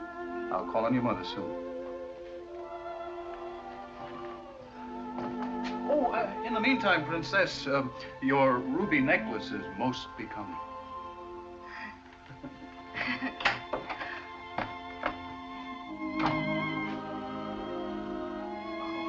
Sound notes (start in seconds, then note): 3.4 romantic music; 12.2 laughs; 16.0 romantic music